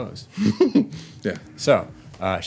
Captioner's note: laughs